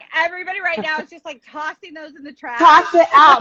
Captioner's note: laughing